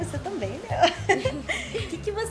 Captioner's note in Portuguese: risos